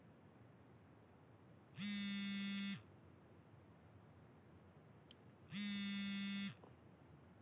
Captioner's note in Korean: 휴대전화 진동음